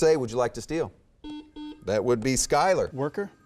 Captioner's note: beeping